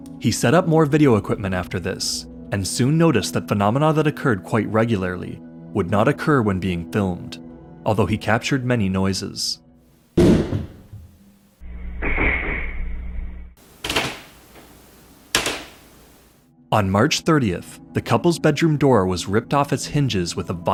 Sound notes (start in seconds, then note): 10.0 bang, muffled crashing, creeks